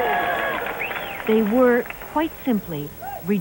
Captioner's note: cheering